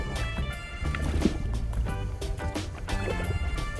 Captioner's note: fish splashing